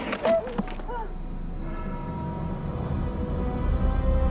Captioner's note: victim screaming